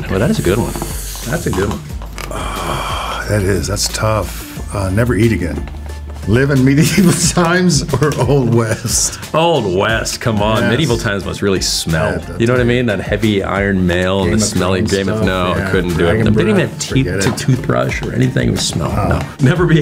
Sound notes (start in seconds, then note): 1.8 sighing; 7.8 laughs